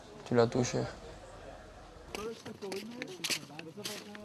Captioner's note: French spoken audio